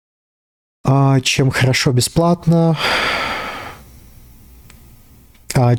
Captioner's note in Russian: вздыхает